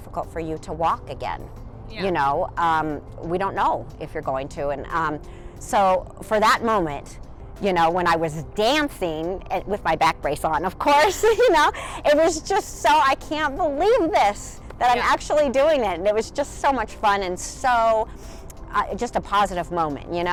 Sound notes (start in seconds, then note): 11.2 laughs lightly